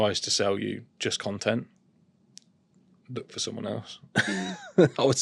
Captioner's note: laughter